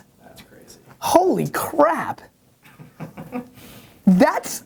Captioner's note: laughs